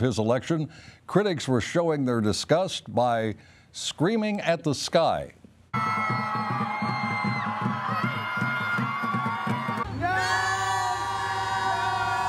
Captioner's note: screaming